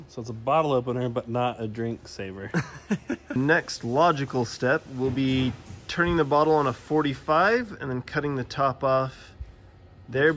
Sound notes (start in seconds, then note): 2.5 giggles